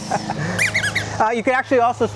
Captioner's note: squeaking